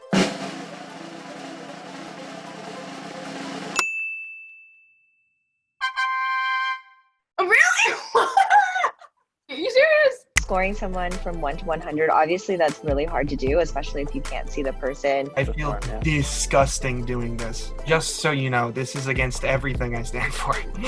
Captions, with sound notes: (drum roll) (bell dings) (fanfare) Really! You serious? - Scoring someone from one to 100, obviously that's really hard to do, especially if you can't see the person. - I feel disgusting doing this. Just so you know this is against everything I stand for.